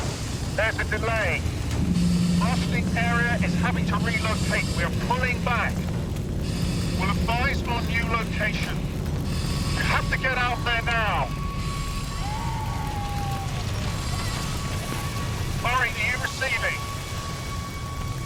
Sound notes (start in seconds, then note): 12.3 woman wailing